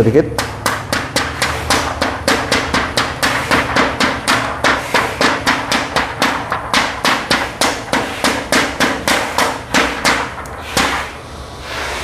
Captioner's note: PET film noise